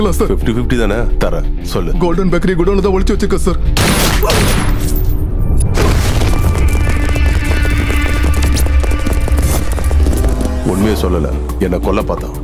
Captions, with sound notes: You want half of it, right? I'll give it. Tell me now. I hid it in the godown of Golden Bakery. (Gunshot) He refused to reveal the truth and tried to kill me!